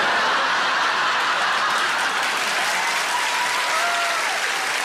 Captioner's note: audience cheers